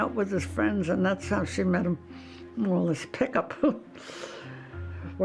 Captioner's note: laughs